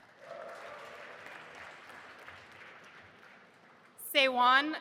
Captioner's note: audience applauding